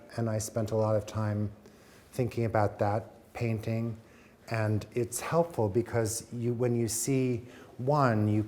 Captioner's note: none